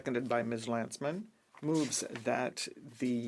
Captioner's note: speaking French